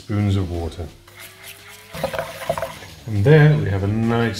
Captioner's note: spoon scrapes bowl